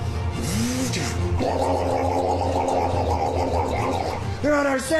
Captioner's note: loud gargling